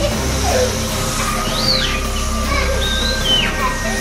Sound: screaming

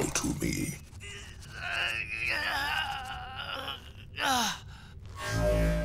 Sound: grunting

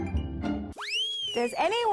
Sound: upbeat pop music; slide whistle blows

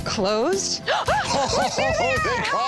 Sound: gasps; laughing

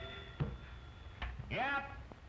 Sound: phone ringing

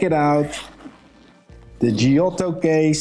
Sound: zip whooshing

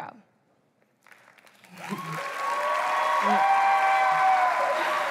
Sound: applause

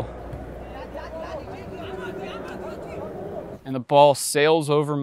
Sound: players murmuring

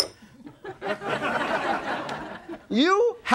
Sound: audience laughing

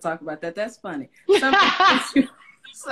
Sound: laughs

